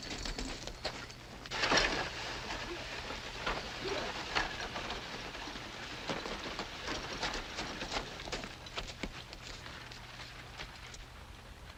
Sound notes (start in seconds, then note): 6.3 horses trotting